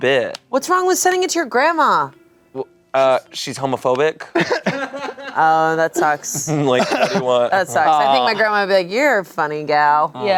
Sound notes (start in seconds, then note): 4.4 everyone laughs